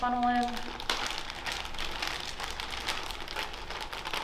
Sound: bag crinkling

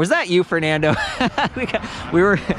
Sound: laughs

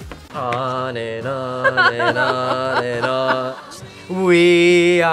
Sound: laughs

